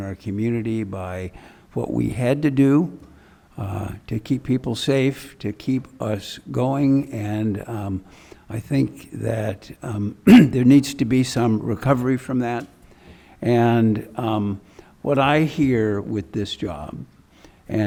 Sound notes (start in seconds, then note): 10.2 clears throat